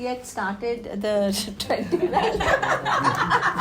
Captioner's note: laughing